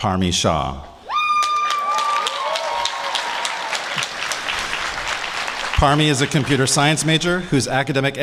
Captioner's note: applause